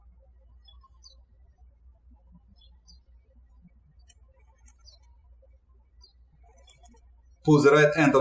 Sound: birds chirping

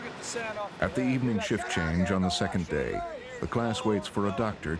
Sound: voiceover

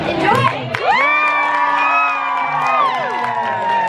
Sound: applause

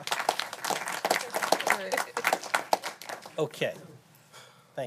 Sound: applause

